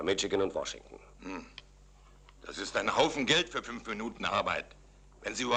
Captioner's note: chuckles